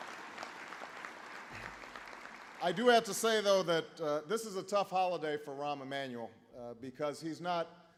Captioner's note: applause